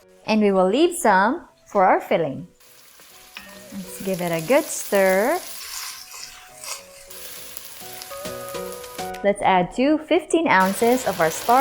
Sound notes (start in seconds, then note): 3.3 spatula thuds; 5.0 oil sizzling; 5.6 sizzling